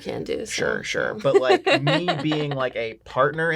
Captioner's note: laughing